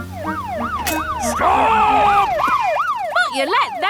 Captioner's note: siren wailing